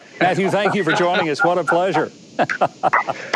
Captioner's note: Matthew laughing